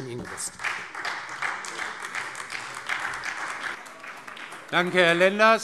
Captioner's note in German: Beifall Freie Demokraten und vereinzelt AfD